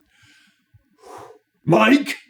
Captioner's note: exhales